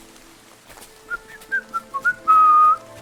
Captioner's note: whistling